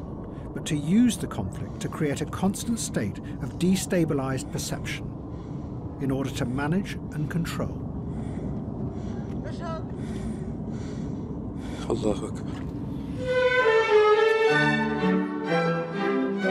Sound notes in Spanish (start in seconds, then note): 8.2 hombre respira agitado; 13.2 orquesta suena